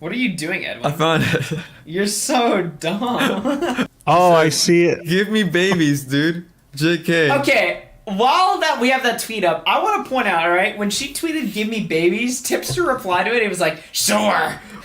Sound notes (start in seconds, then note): 0.9 laughs; 2.9 laughs